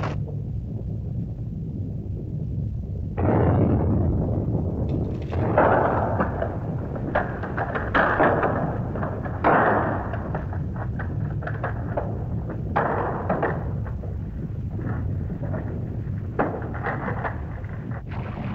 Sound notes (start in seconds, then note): 0.1 volcano rumbles; 3.1 explosion; 4.4 rumbling sound & rock clattering; 18.0 volcano rumbling & lava hissing